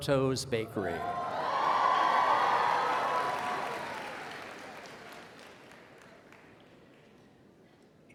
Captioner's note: applause